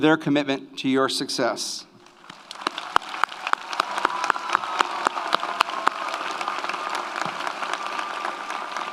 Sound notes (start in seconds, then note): 2.0 audience applauds; 2.2 audience cheers